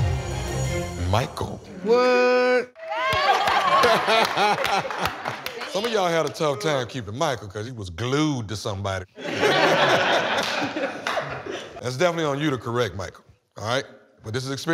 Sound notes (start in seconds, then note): 3.0 laughter; 9.2 laughter